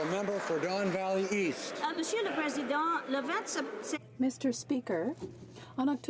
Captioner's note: applause